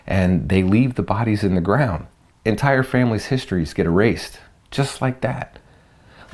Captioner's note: none